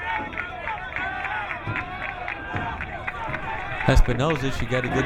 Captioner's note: crowd cheering